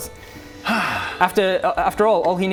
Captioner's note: contented sigh